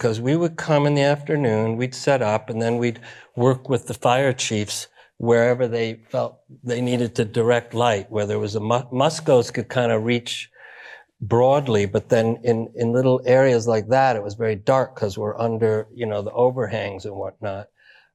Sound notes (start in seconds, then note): none